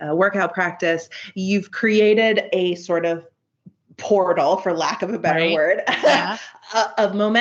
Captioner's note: giggles